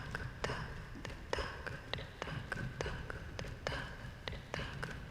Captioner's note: none